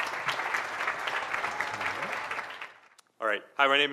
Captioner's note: audience applauding